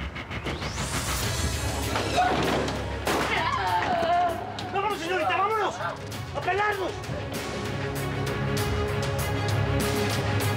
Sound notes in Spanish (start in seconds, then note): 1.9 portazo; 3.3 gritos de sara